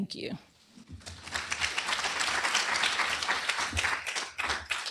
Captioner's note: applause